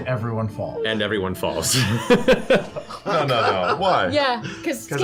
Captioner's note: laughs